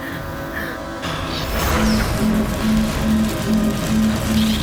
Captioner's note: laser shoots